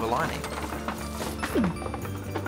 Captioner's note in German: Objekte klappern; Josh stöhnt